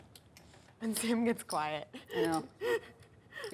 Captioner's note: laughs